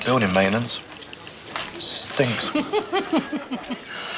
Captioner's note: laughs; coughs